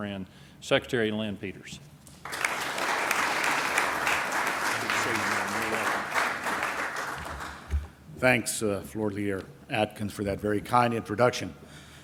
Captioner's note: applause